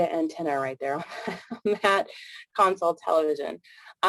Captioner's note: chuckles